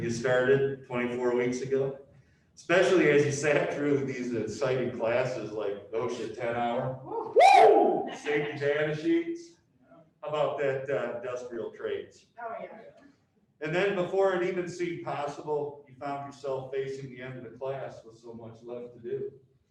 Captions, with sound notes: When you started 24 weeks ago, especially as you sat through these exciting classes, like OSHA 10-hour. (audience cheers) Safety data sheets, how about that industrial traits? And then before it even seemed possible, you found yourself facing the end of the class, with so much left to do.